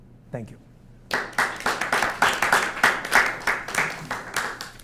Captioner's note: applause